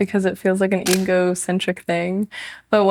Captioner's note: shutter clicks